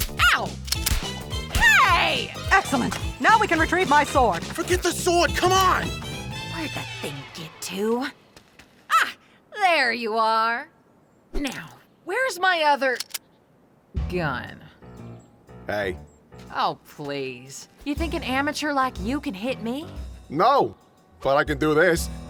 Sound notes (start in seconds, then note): 12.9 gun cocking